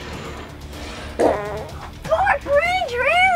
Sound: fart noise

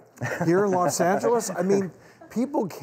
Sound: laughter

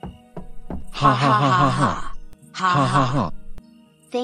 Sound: both laughing

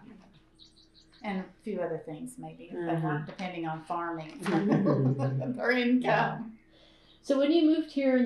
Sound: laughter

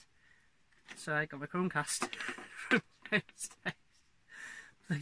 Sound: laughter

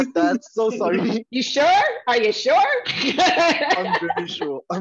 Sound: laughter

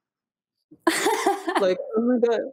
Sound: laughs

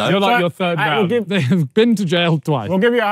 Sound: yelling

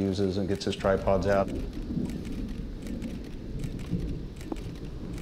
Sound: camera shutters clicking

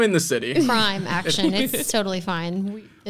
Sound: laughing

